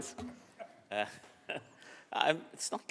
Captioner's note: laughs